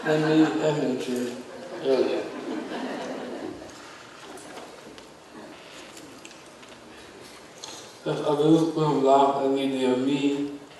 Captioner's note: audience laughs